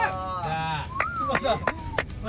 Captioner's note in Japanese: 口笛